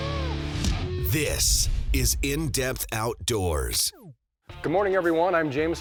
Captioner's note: voiceover